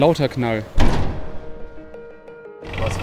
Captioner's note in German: lauter Knall